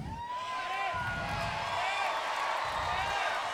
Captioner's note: audience cheers